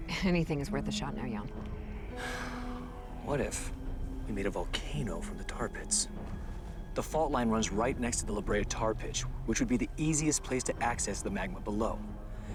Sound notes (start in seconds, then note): 2.1 sighs